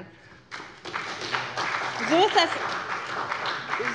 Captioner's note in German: Beifall bei der SPD